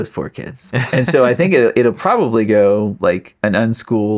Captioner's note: laughing